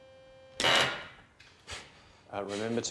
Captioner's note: machine blaring